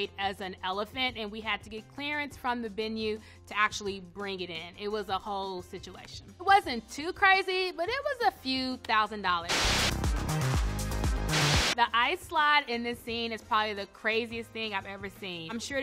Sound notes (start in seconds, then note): 9.5 TV static hisses; 9.5 up-tempo dance music